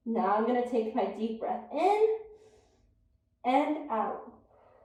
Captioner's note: inhales deeply; exhales deeply